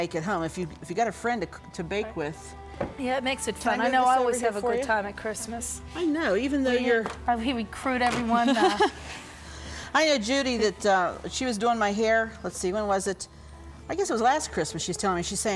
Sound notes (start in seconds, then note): 8.4 chuckles